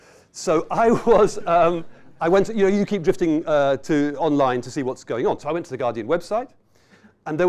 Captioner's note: chuckles